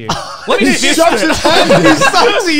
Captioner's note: all laugh